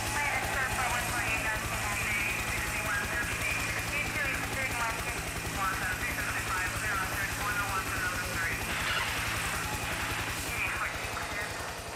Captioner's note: crowd cheering